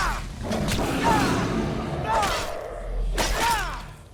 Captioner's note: character growls